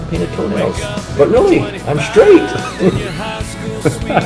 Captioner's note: laughing